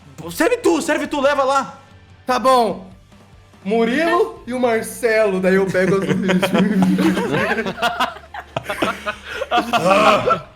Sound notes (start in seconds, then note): 4.8 scoffs; 5.6 laughs